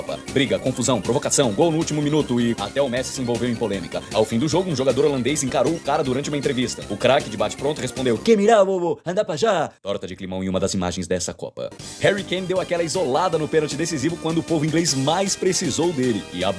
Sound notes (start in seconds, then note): 8.3 Spanish